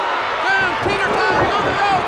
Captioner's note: audience cheers